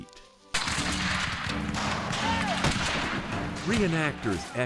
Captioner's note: gunfire booming